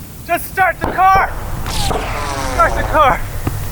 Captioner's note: bullets whizzing